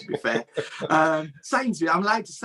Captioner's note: chuckles